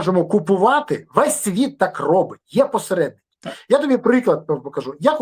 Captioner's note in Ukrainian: прочищення горла